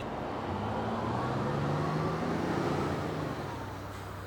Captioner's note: engine humming